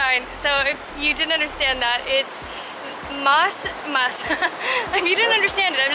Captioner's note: laughter